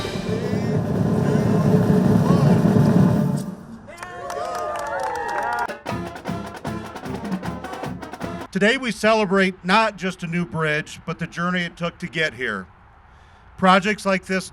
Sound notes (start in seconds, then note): 3.8 cheering; 5.6 band Music